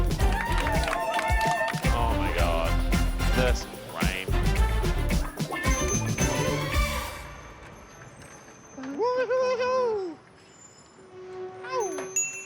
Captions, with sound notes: (cheering and clapping) - Oh my god, this rain. (bike bell ringing) - Woohoo! - Ow!